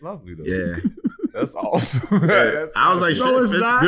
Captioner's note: laughing